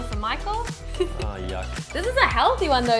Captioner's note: laughs